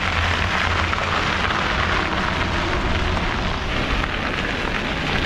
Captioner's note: wheel pattering